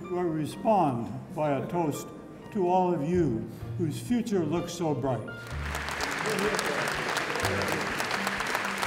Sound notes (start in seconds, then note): 5.4 applause